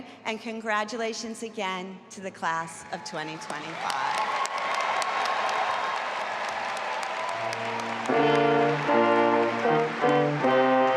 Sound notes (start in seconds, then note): 3.3 audience applauding and cheering; 7.4 stately music